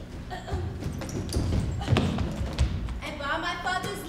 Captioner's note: Tranio grunts